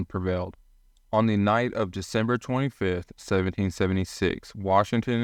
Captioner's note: voiceover